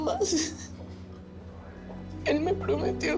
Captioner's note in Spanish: Sollozos